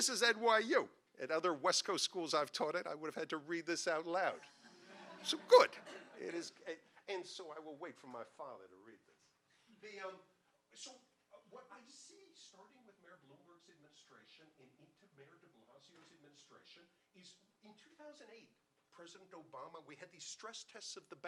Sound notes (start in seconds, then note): 4.3 audience laughing